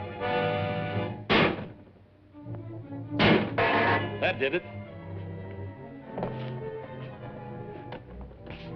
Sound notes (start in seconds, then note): 3.2 clanging; 5.3 suspenseful music